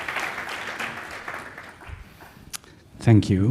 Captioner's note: applause